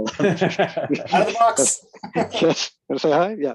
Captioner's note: laughs